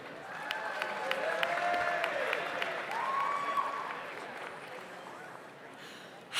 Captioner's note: audience applauds; audience cheers